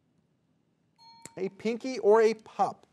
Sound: alarm clock ringing

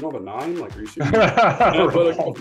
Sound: laughs

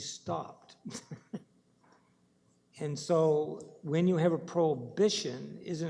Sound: laughing

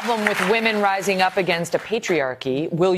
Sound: applause

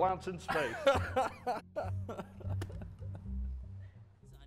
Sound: laughing fit

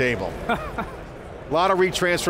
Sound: laughs

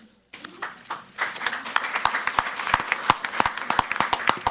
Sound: all clapping

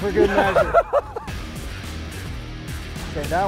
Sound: laughing

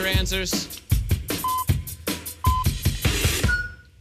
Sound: electronic beeping

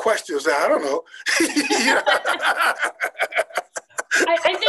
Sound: laughing

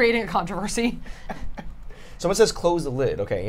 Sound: laughs

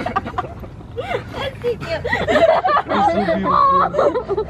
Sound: cries

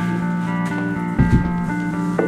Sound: tennis shoes scuffs

